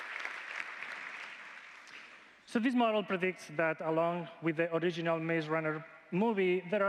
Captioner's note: applause